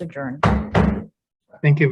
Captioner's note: gavel bangs